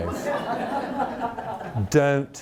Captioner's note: audience laughing